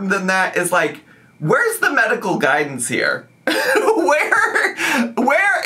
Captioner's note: laughs